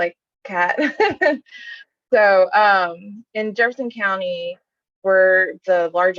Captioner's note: chuckles